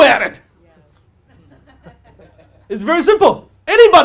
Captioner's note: audience laughing